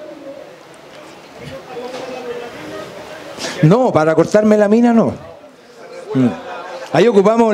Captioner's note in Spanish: voces del público